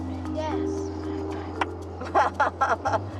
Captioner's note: laughs